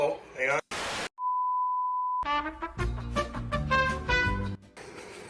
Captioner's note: off air tone